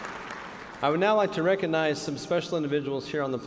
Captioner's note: cheers and applause